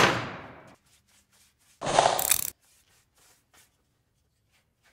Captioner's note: wood thudding; brush scratching